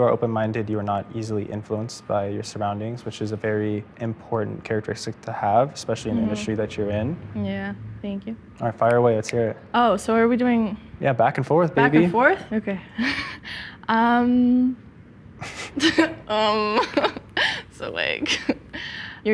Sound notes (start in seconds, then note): 15.4 both chuckling